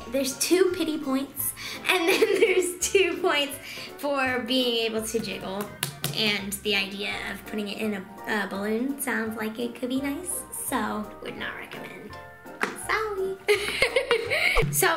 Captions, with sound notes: There's two pitty points and then there's two points for being able to jiggle. (slapping) And the idea of putting it in a balloon sounds like it could be nice? So, would not recommend, sorry. (laughing)